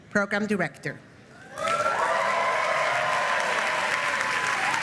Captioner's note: applause